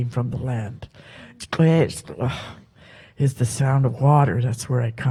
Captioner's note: speaks Halkomelem